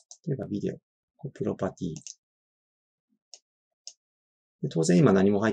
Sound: left click

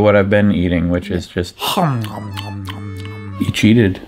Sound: chewing loudly

